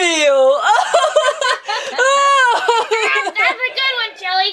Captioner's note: laughs